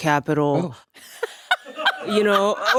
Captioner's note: laughing